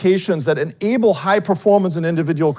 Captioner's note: none